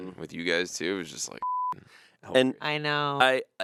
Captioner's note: beep